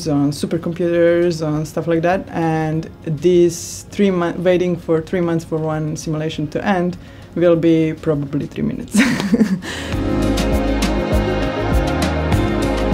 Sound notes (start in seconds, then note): 8.9 laughs; 8.9 upbeat music